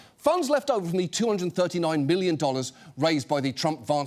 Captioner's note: none